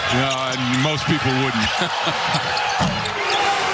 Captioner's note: laughter